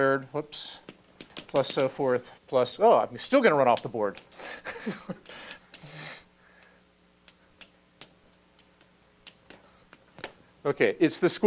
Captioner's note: laugh